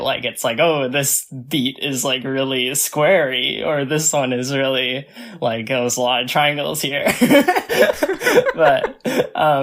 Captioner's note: both laugh